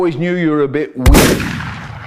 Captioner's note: definitely the sound that a hand gun makes